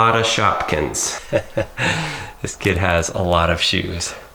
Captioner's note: chuckling